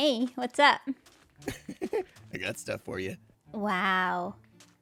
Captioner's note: laughs